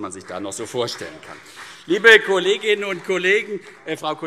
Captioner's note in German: Beifall CDU